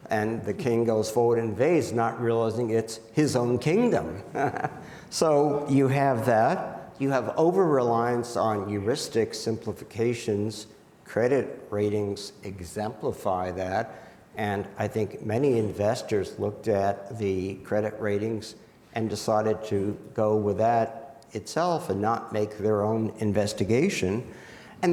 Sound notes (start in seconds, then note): 4.0 laughs